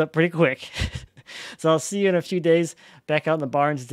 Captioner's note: laughing